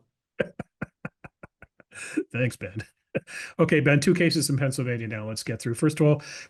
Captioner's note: laugh